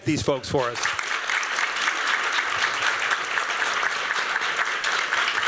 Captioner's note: applause